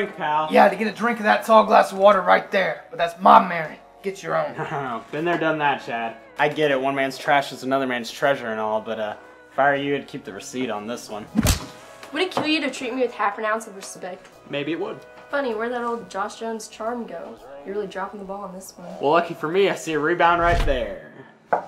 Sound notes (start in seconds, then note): 4.6 chuckles; 11.3 slap